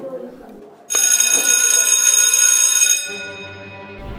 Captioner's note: bell rings